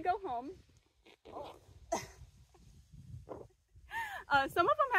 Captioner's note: chuckling